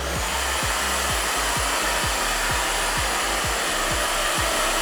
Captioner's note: hairdryer blowing